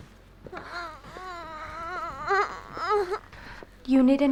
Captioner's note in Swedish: stönande